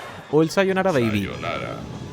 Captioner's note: Sayonara baby in Spanish